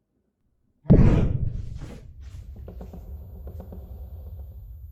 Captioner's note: violently gasping